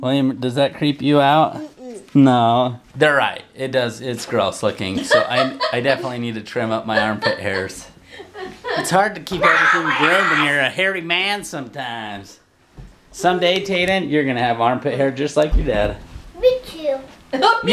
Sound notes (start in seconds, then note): 8.5 laughing